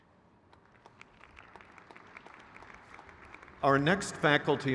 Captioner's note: crowd cheers